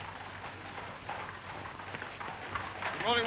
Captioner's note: horses trotting up